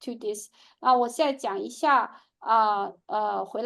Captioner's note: speaking chinese